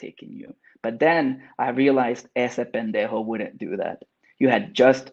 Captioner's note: speaks Spanish